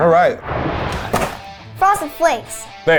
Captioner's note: animated explosion booming